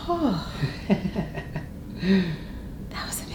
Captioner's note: chiropractor laughs